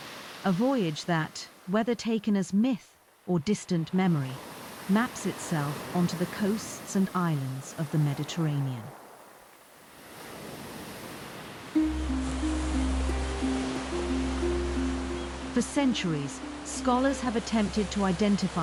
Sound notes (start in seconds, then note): 9.5 waves crashing; 11.7 gentle music